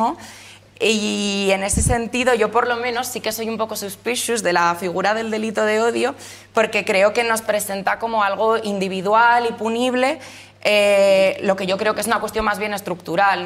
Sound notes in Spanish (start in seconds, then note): none